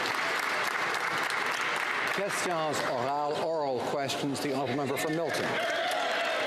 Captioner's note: some Applause